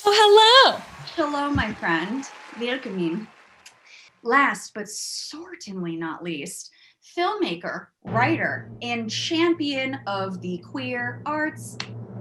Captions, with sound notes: - Well, hello. (audience cheers and applauds) - Hello, my friend. (speaks in foreign language) Last, but certainly not least, filmmaker, writer, and champion of the queer arts,